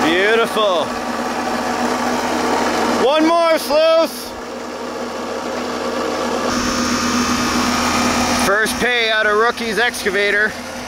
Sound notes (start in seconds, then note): 4.6 engines chugging